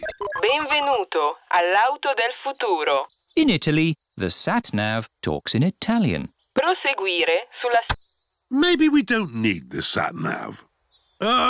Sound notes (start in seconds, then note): 0.0 chuckles; 0.0 beeps; 2.6 speaks italian; 6.9 sat nav talks in italian